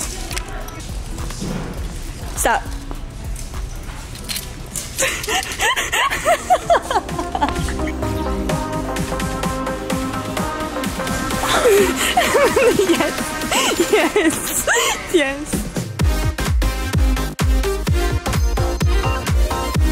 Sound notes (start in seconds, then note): 5.0 laughing; 6.9 upbeat synth music; 15.6 upbeat synth music continues